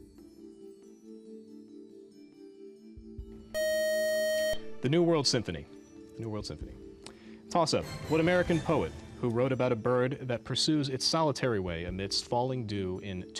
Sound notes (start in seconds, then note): 3.5 time-out buzzer